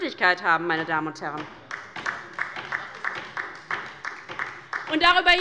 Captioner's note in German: Beifall bei der LINKEN